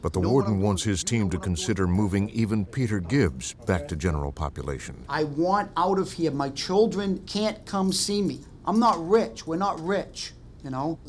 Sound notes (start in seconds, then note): none